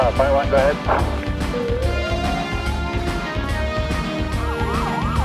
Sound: siren wailing

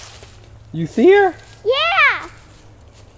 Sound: voiceover

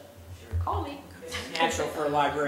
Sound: laugh

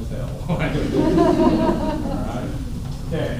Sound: laughter

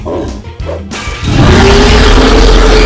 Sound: roaring

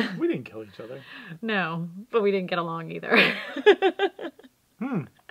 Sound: laugh

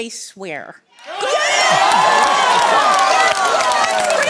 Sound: cheers; applause

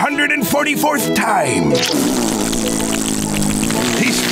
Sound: doing raspberries

